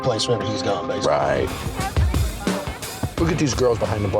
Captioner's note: chatter